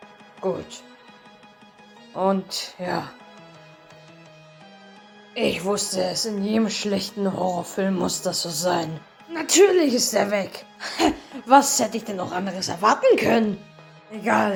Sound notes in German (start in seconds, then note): 10.8 lacht